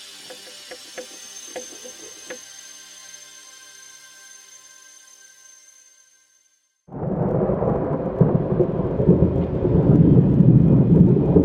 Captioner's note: music followed by Thunder & Rain